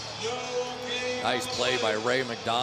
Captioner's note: pa announcement